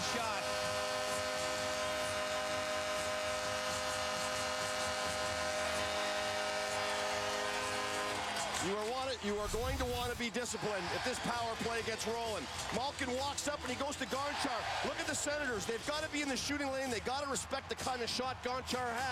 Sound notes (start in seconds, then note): 7.7 applause and cheering; 8.5 horn sounding